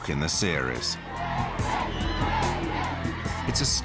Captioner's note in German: menge ruft durcheinander